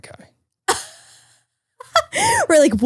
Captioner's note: laughing